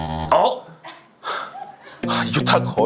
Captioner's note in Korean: 얕은 한숨